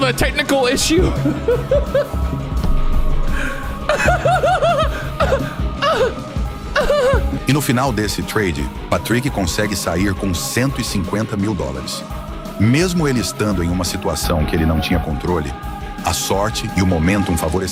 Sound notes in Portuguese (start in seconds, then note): 6.7 choro; 7.4 risadas